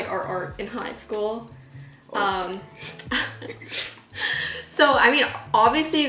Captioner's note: both laughing